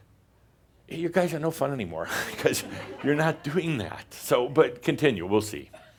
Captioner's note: more chuckles